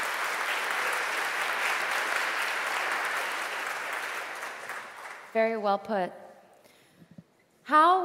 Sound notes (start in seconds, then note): 0.0 applause